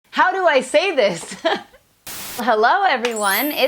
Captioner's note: laughs